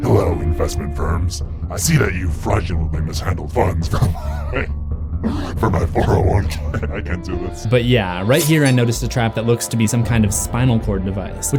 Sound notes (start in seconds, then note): 5.6 laughter